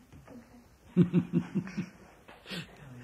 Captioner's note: laughs